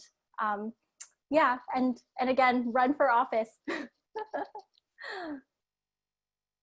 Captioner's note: chuckles